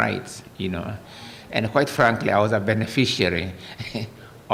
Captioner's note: laughter